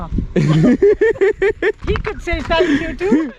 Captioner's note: laughing